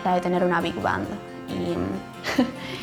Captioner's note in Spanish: risas